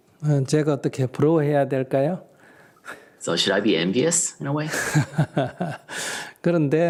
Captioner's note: laughter